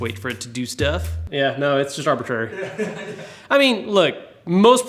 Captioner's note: laughing